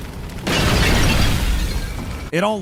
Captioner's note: pot shatters